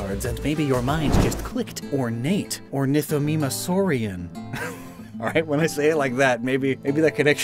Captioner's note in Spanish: risas